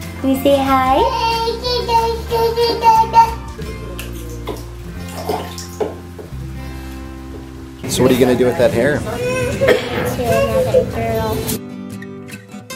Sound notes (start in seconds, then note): 1.0 babbling